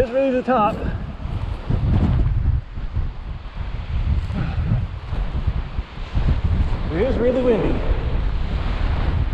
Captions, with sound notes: Well, it is really the top. (wind whooshing) It is really windy.